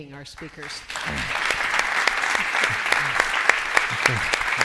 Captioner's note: applause